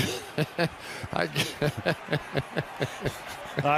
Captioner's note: laughter